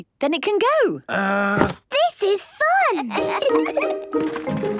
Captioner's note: kids giggling